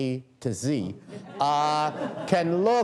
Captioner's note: laughter